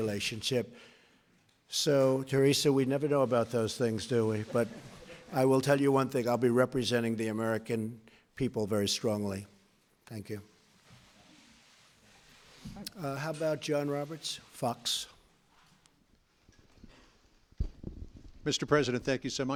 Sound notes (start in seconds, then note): 4.2 laughter